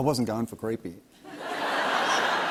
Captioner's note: laughter